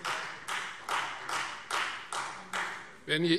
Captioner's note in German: Beifall Freie Demokraten